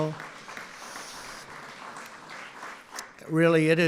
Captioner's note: applause